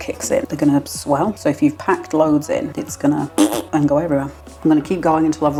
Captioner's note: blurt